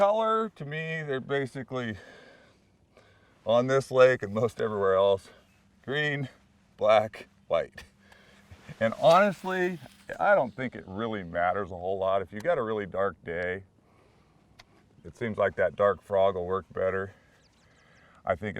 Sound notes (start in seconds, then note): 7.0 rod whipping; 8.7 reel spinning